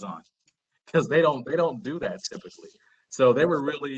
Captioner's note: laughter